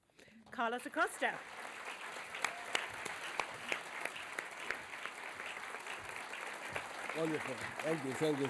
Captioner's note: applause